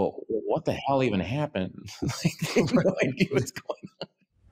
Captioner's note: laughs